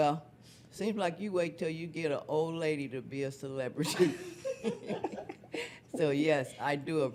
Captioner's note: laughs